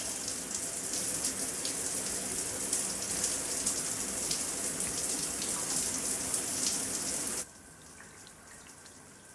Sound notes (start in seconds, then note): 0.0 water running